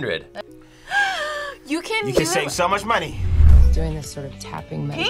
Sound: gasps

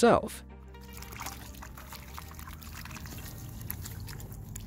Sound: water splashes

